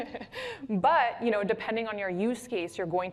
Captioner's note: laughs